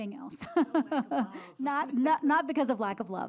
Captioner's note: laughs